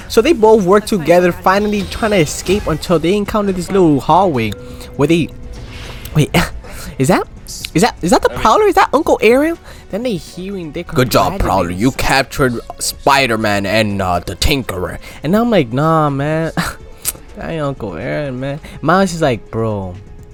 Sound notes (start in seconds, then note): 17.0 tongue smack